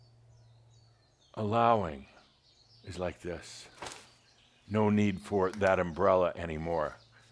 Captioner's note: closes umbrella